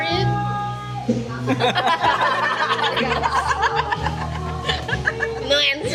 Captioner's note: everyone chuckles🤣